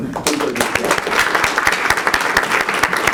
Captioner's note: applause